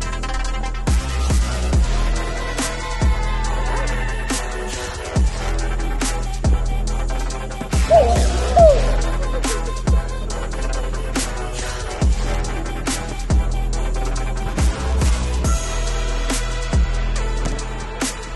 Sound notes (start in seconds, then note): 8.0 giggle